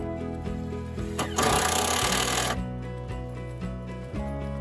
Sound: electric drill sound

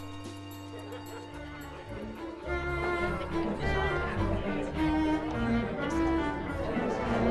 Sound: bright orchestral music; party guests chattering

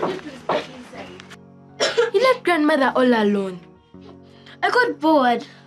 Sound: cough

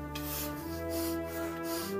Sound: heavy breathing and panting

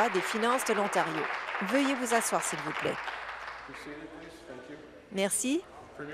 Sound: applause

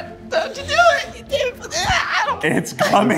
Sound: squeals

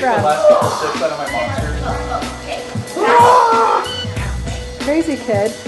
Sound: energetic shouting

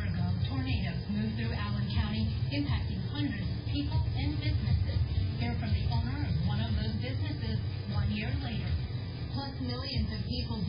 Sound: "21Alive News at 4" teaser plays in background

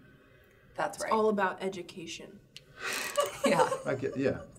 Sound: all laughing

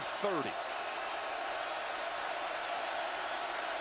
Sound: crowd cheering

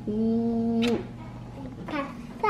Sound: kissing

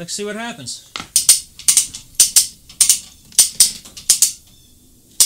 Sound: metal clicking

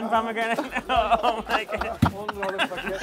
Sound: laughs

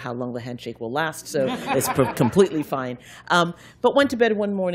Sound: laughter

